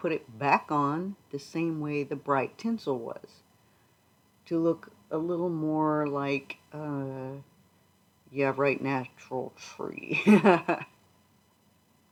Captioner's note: laughs